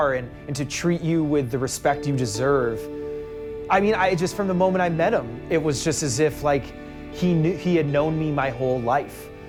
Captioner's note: none